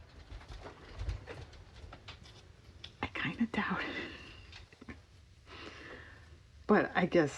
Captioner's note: whispers